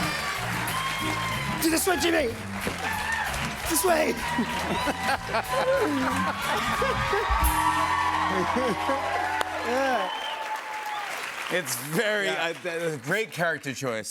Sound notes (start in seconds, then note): 4.2 laughs